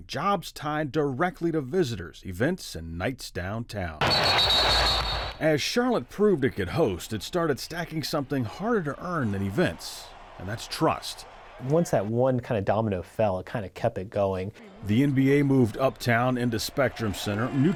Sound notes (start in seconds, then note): 4.0 whistle blowing; 4.0 crowd cheering